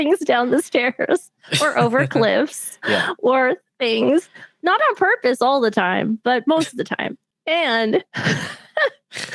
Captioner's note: laughs